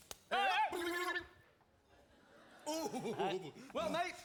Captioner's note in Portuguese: yelling comically; laughs